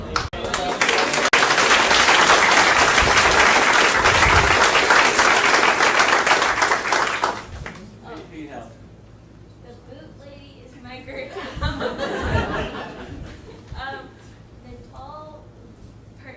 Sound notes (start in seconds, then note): 0.0 audience clapping; 11.3 audience laughing